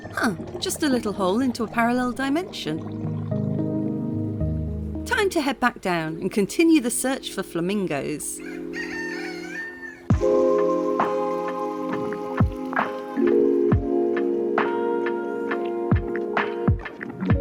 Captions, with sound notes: Huh. Just a little hole into a parallel dimension. Time to head back down and continue the search for flamingos. [rooster crowing] [relaxing music]